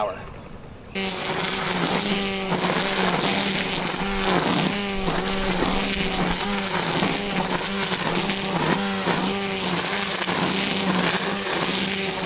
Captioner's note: sounds of a motor running